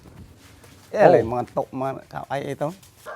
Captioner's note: speaking Khmer